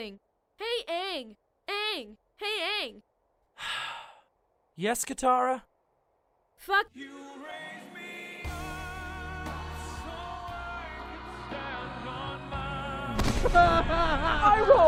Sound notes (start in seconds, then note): 3.5 sighs; 14.3 cries in pain